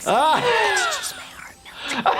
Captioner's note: laughing